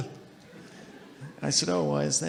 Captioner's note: audience laughing